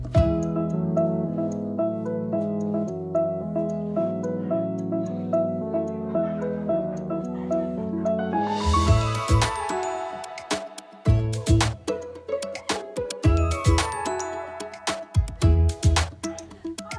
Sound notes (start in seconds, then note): 7.3 laughing and giggling